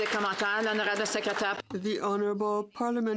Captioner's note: some Applause